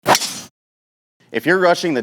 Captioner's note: golf club impacts